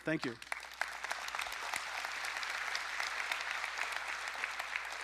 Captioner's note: audience applauding